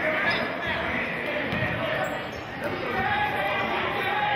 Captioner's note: yelling